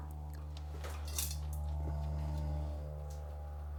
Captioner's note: plane roars